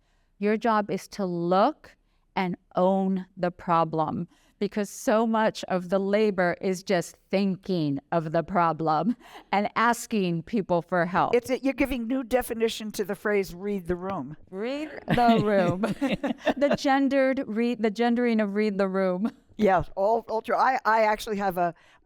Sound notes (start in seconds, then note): 14.9 laughter